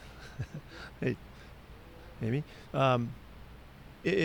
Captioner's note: Pete chuckles